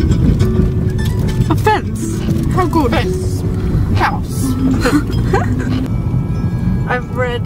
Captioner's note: laughing